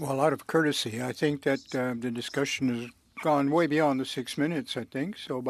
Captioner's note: speaking French